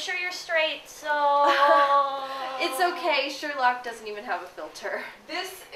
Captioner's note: laughs